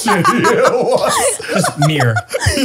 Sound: they laugh

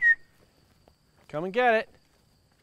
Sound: whistle

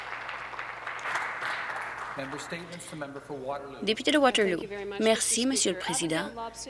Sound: applause

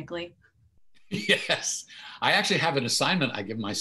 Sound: chuckles

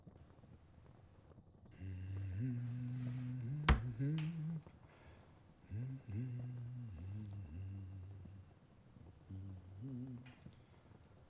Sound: humming

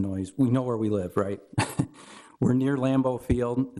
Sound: chuckles

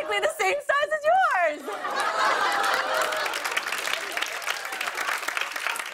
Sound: laughter and applause

